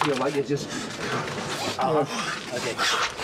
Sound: jackson panting

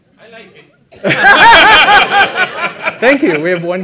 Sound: laughter

